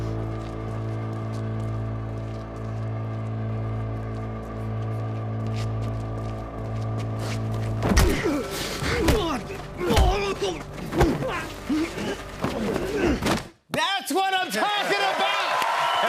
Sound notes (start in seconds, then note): 8.0 grunting; 14.2 cheers and applause